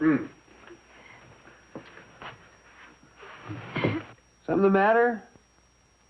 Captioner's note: crying